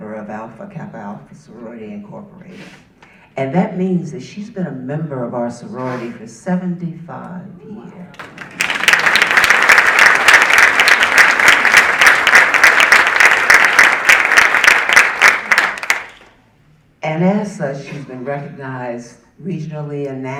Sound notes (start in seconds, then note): 8.1 audience applauding